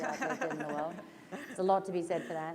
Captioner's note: laughter